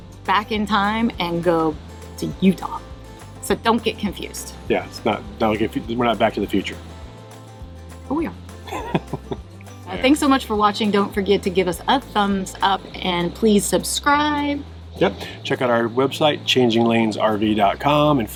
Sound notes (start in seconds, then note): 8.6 laughs